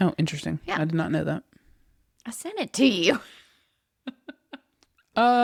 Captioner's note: laughs